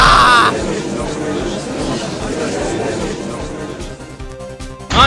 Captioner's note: gallery chattering